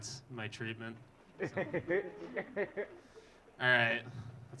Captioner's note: audience laughing